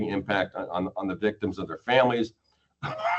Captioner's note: coughs